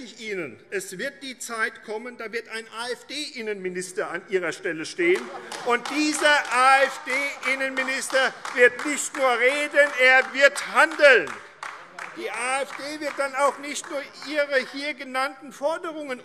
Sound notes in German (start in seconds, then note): 5.8 Beifall AfD - Vereinzeltes Lachen CDU, SPD und DIE LINKE